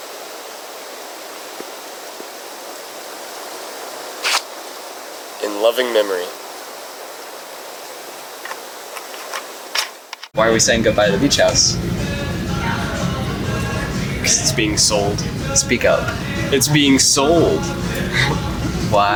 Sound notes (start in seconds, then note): 17.6 chuckles